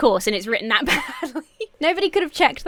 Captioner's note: laughs